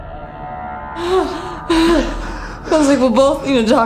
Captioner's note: Tina pants